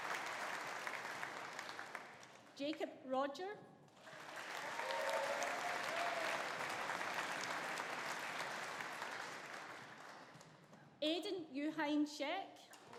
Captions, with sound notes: Jacob Rodger. (AUDIENCE APPLAUDING) (AUDIENCE CHEERING) Aidan Yu Hein Shek.